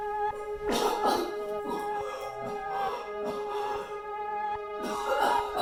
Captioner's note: Leona coughs and pants; Leona coughs; eerie music continues